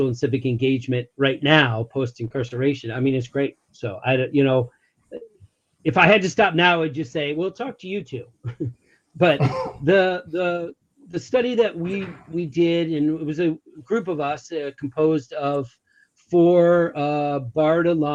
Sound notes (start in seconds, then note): 8.4 chuckles